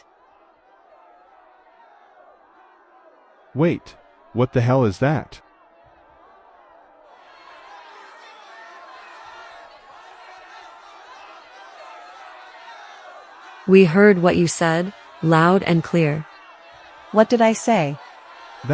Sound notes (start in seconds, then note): 0.1 sound of a crowd; 9.2 sound of people screaming